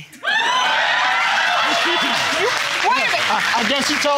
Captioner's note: audience clamoring and applauding